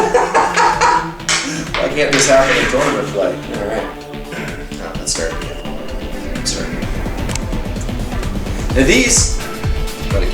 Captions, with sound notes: (laughs) Why can't this happen in tournament play. Alright. (clears voice) No let's start again. Start. And these.